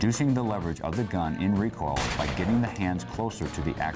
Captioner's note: gun shoots